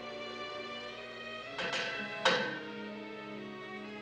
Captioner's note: pipe rattling